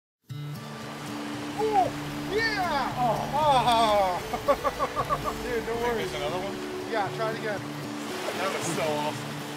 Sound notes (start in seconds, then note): 1.4 fishermen cheering; 4.0 fishermen laughing; 5.3 fishermen talking